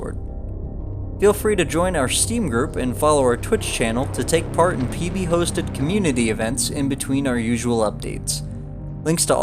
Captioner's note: steam